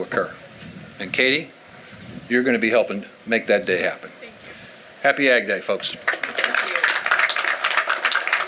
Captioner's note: applause